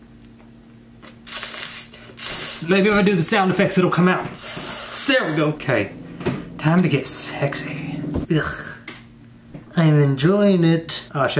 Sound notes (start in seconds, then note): 2.2 hissing